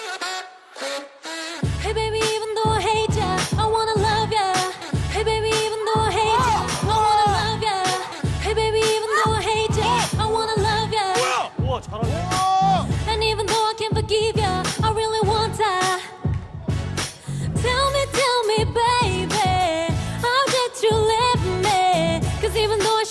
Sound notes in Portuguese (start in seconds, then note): 5.6 Aaah!